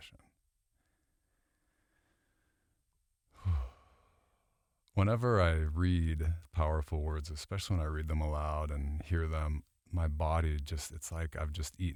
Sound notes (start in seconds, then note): 3.3 exhaling